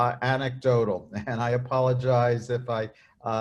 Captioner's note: chuckles